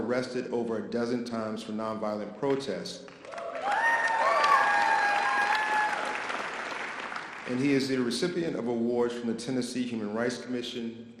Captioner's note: audience applause